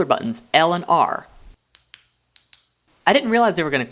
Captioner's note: buttons Click Audibly